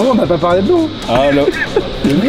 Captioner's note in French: rire